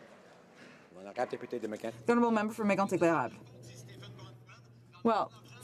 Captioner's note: some Applause